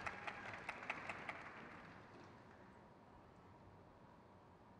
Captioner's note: crowd claps